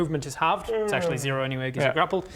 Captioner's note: yawn